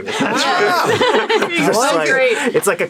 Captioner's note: laughing